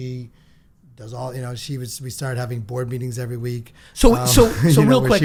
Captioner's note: laughs